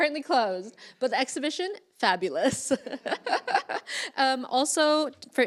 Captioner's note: laughs